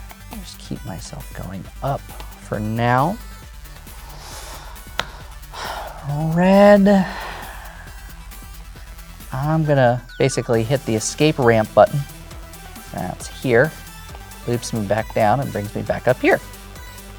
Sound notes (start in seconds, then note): 4.9 tile slaps table; 6.8 sighs